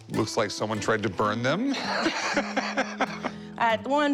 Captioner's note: laughs